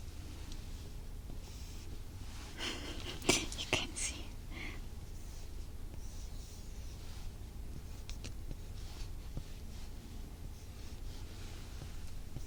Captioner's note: writing sound